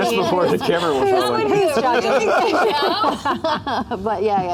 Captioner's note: overlapping chatter; laughter